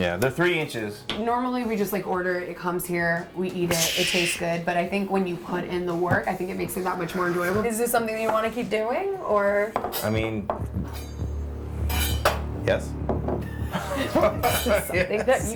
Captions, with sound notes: - Yeah, they're three inches. - Normally we just order it, comes here. We eat it. (rocket noises) It tastes good. But, I think when you put in the work, I think it makes you that much more enjoyable. Is this something that you want to keep doing or? - I mean, Yes. (laughter)